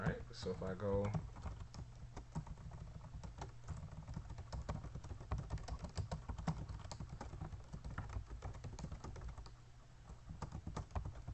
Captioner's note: typing sounds